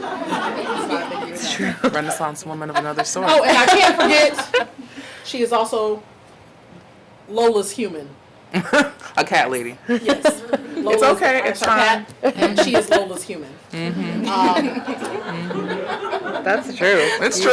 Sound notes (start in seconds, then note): 8.1 laughing; 14.0 audience laughing